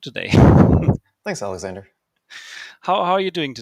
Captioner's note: laughs